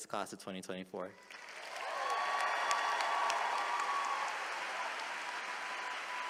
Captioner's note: attendees applauding and cheering